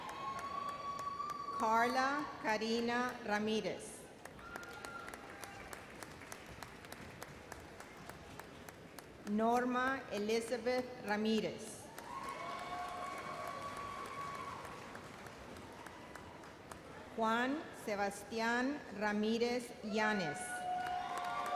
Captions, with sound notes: Karla Karina Ramirez. (audience applauds) Norma Elizabeth Ramirez. (audience applauds) Juan Sebastian Ramirez Yanes. (audience cheers)